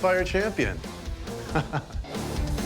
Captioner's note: laughs